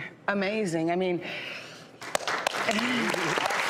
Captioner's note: applause